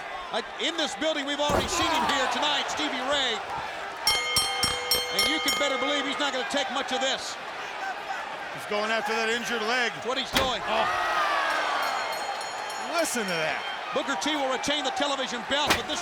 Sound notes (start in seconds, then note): 4.0 bell rings; 11.7 chair thuds